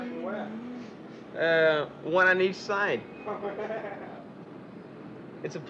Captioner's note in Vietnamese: Tiếng cười